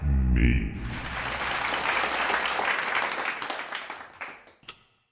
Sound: applause

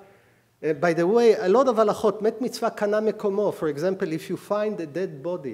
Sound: speaking hebrew

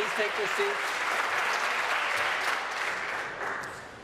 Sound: some Applause

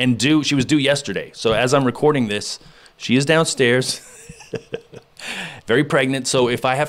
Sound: laughs

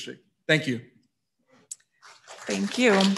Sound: audience applauding

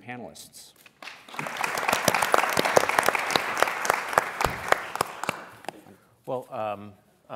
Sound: applause

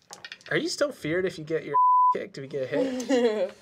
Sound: beep

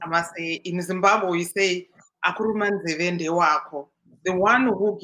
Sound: non-english speech

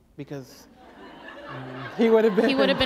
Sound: laughter

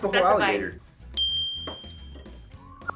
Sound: bell rings

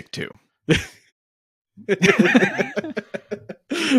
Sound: laughing

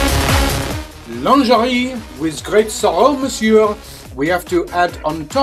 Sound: French accent

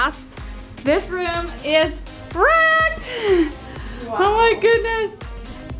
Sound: chuckles

